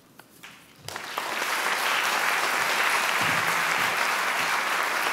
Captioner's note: applause